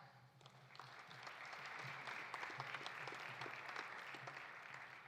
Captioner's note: audience applauding